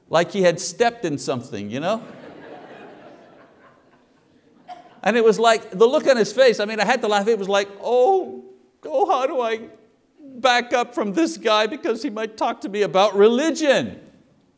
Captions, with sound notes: like he had stepped in something, ya know? [congregation laughs] and it was like, the look on his face, I mean, I had to laugh. It was like, "Oh God, back up from this guy "because he might talk to me about religion!"